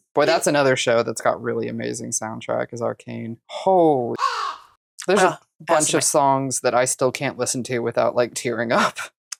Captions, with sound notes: Boy, that's another show that's got a really amazing soundtrack is Arcane. Holy [CAW]. There's a bunch of songs that I still can't listen to without. Like tearing up.